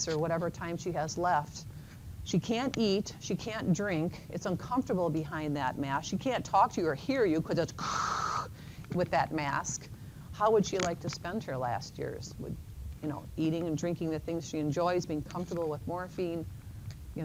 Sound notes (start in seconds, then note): 7.8 makes loud breathing sound